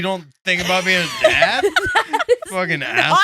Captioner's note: laughing